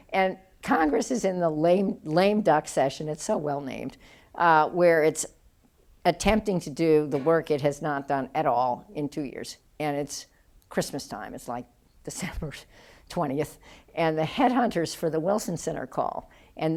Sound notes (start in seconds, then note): none